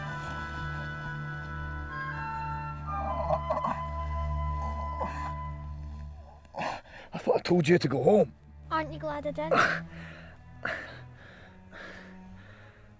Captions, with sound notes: (groaning) - I thought I told you to go home? - Aren't you glad I didn't?